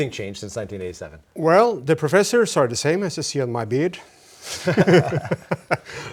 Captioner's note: laugh